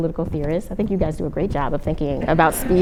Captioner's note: laughter